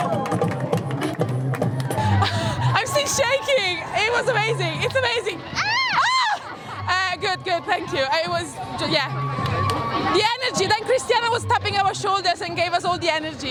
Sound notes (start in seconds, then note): 2.0 laughs; 5.5 screams; 5.5 woman screams